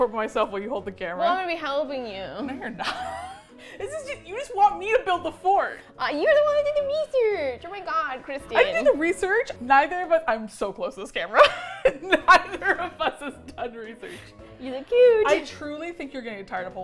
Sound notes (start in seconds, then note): 2.4 laughs; 11.4 laughs